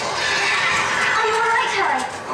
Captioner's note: dramatic music; dementors screaming